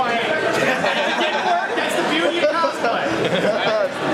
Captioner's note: laughter